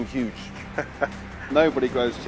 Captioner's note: chuckles